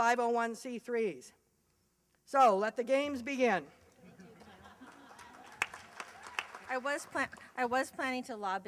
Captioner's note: applause and laughter